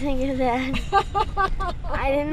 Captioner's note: laughing